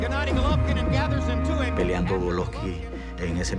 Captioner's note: speaking Spanish